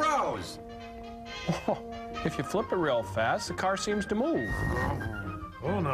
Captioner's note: revving noise